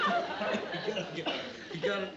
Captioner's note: choking